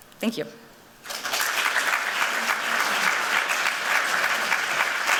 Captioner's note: applause